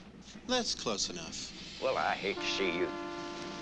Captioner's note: whistle blows